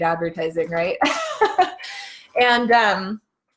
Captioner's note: laughing